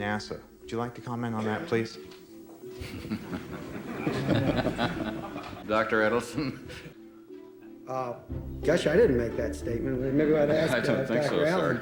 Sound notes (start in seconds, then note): 2.7 laughing